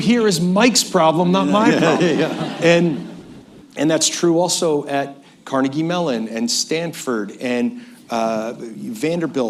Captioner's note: laughter